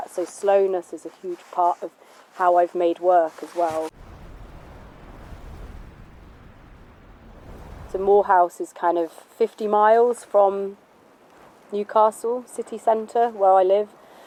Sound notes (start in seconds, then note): 3.9 air whooshing